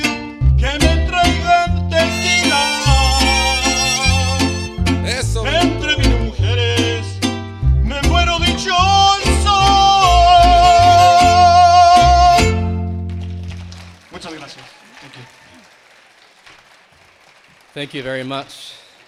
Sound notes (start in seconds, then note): 0.3 continues singing in Spanish; 12.8 attendees clapping and cheering; 15.5 attendees clapping